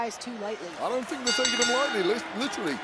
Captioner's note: bell rings